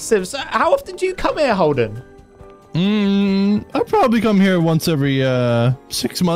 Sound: none

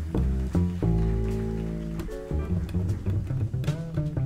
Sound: audience applauds

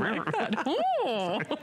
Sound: laughter

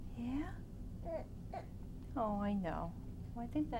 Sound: baby coos

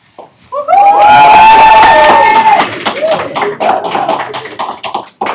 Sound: cheering

